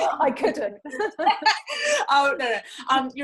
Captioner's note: laughs